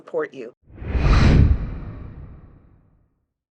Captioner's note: air whooshing